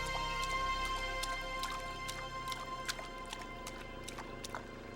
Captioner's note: water splashing